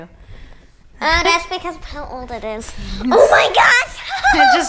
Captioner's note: laughing